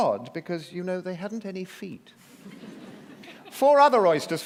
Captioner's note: laughter